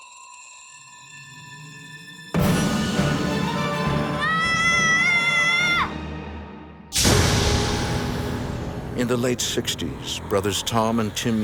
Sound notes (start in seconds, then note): 2.3 intense orchestral music; 4.1 Timmy screams; 6.4 ominous music